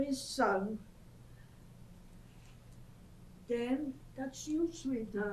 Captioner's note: pauses for 3 seconds